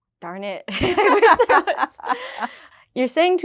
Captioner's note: laughing